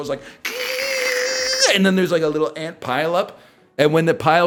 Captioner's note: mimics a car tire screech